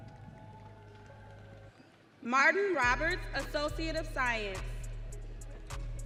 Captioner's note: audience cheering